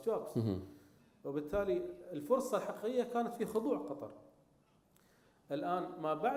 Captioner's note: speaking in foreign language